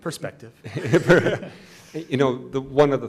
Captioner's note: laughing